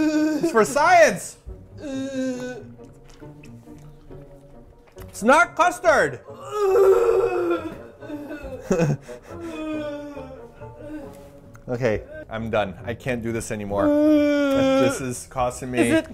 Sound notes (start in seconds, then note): 1.6 still making vomitting sounds